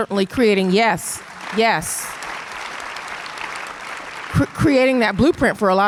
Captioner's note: audience applause